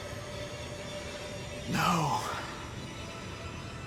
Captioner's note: breathing heavily